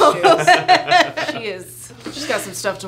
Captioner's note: laughing